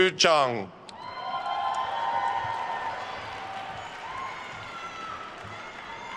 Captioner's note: attendees cheering and applauding